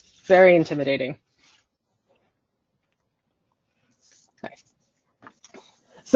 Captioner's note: silence